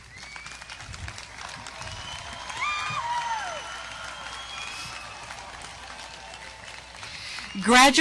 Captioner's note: audience applause